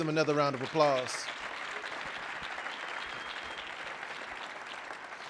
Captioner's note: audience applauding